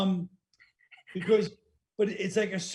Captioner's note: laughing